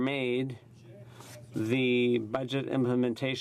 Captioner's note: speaking French